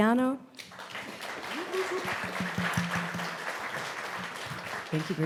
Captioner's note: audience applauding and whooping